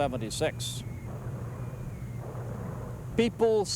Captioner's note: mortar fire whistling, booming